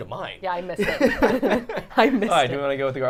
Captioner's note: all laughing